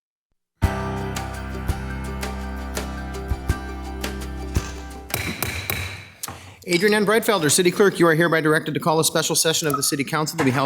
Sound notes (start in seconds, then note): 0.6 bright music; 5.1 gavel knocking